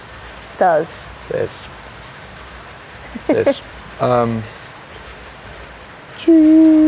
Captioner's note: rain falling